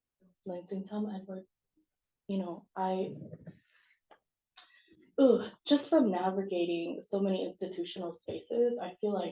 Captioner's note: non-english